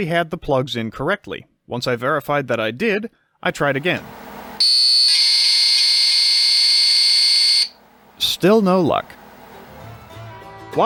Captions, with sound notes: had the plugs in correctly. Once I verified that I did, I tried again… [ELECTRONIC BUZZING] Still no luck…